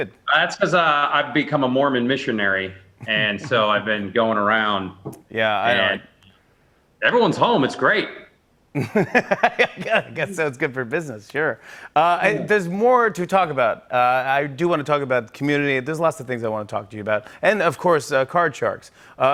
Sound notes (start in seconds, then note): 8.7 laughs